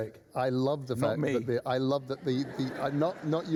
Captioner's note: laughter